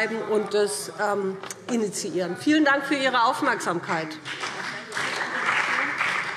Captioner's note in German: Beifall BÜNDNIS 90/DIE GRÜNEN und CDU